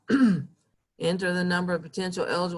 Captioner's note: clearing throat